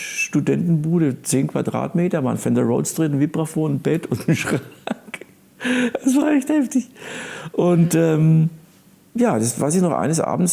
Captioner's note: laughing